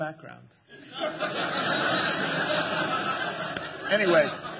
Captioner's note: laughter